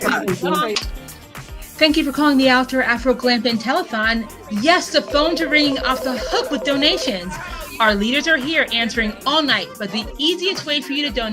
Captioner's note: phone ringing